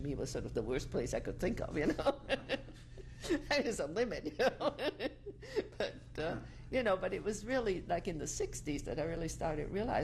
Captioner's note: laughs